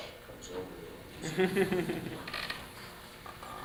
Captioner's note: chuckling